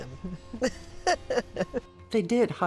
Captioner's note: laughs